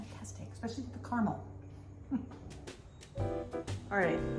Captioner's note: laughs